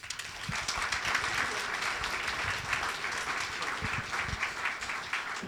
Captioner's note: applause